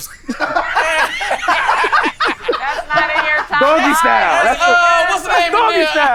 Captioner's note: chatter; participants laugh